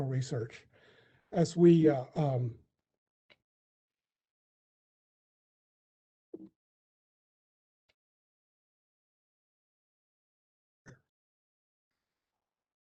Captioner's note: long pause